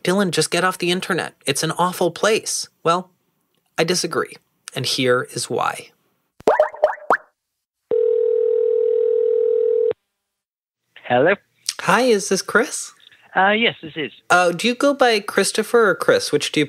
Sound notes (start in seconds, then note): 6.4 popping; 7.9 telephone ringing